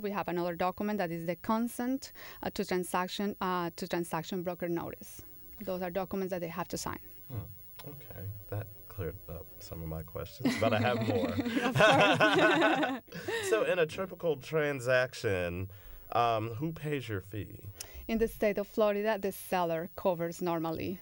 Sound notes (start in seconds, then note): 13.4 laughter